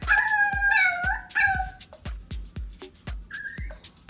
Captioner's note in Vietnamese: tiếng sủa